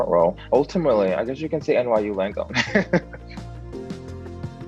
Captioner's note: laughs; upbeat music continues